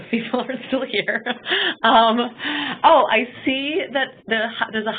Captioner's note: laughing